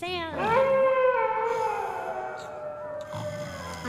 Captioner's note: wolves howl